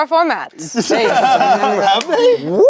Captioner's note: laughs